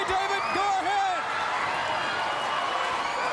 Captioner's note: crowd cheering